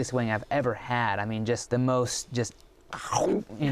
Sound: chomps

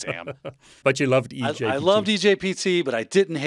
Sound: laughs

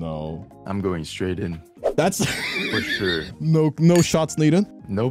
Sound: laughs

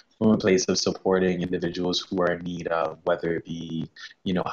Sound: chuckles

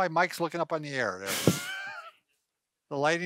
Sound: chuckles

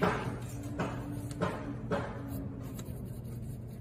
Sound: hammer banging

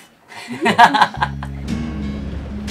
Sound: laughing; tranquil guitar music

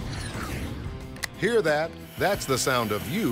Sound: clicking; voiceover

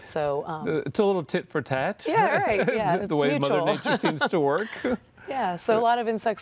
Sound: laughter

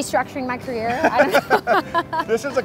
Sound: laughing

